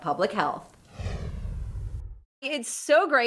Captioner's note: swooshing